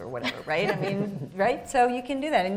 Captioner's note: laughing